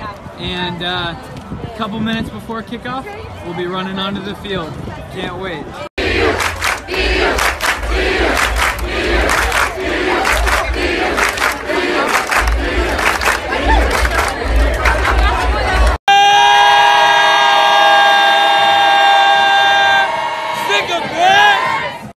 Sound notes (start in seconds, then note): 5.9 B-U!" clap-clap "B-U!" clap-clap